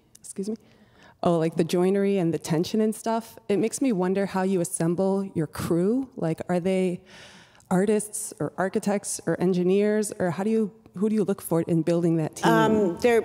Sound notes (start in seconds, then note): none